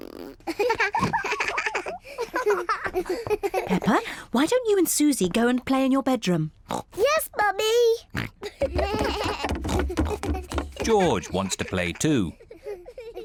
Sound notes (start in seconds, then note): 0.5 both laugh; 9.2 snorts